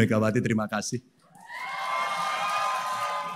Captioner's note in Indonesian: tepuk tangan